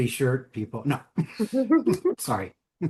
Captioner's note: chuckling